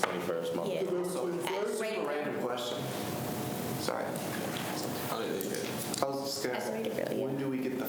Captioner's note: students chatter